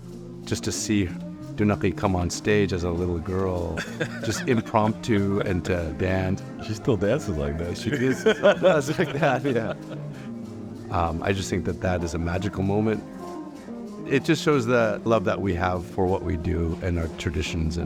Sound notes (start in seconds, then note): 7.7 laughing